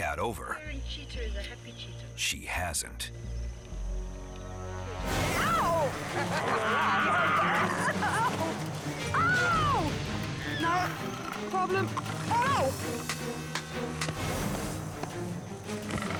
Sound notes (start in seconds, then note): 4.9 dramatic music intensifies; 6.3 Sabika growls; 13.2 hand slapping